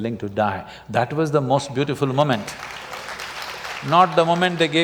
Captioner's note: applause